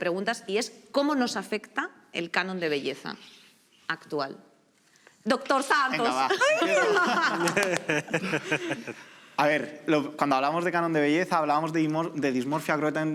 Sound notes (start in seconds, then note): 6.1 laugh